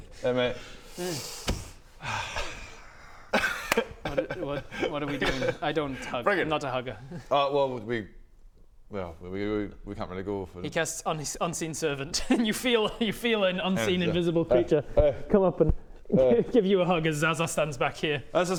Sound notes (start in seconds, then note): 2.0 sigh